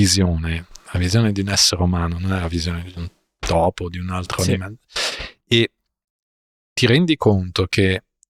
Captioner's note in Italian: sbuffare